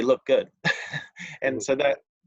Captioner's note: chuckles